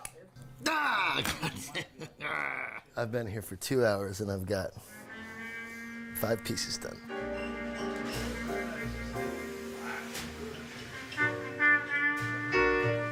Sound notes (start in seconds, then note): 1.6 growling; 8.4 jazz music